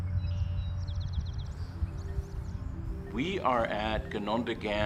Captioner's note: birds chirping